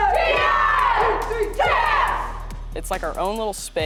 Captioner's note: team chanting